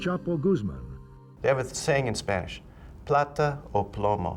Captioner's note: speaks Spanish